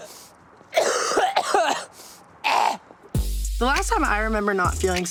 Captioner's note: Tana coughing